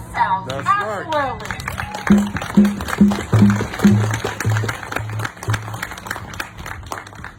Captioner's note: audience applauding; audience drumming